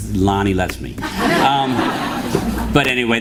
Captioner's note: laughter